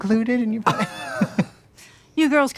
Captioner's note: both laughing